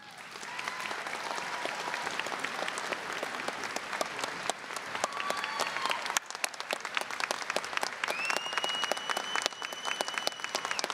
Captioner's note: applause, cheering